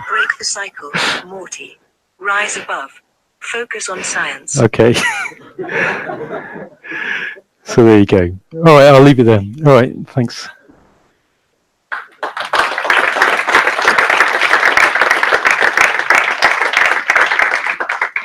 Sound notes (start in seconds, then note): 4.8 laughs loudly; 11.9 audience clapping